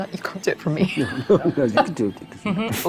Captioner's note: chuckling